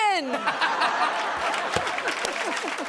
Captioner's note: laughter; applause